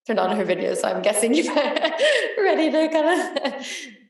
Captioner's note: laughs